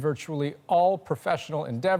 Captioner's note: speaking foreign language